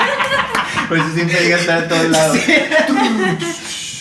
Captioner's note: haha